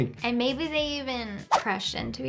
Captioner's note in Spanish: none